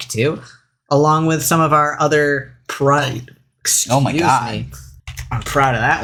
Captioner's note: belches